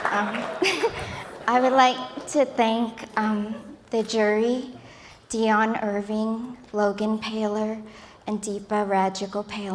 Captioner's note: laughter